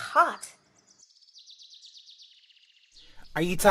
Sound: birds

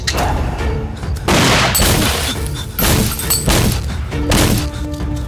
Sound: gunshot

